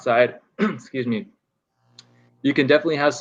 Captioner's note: clearing throat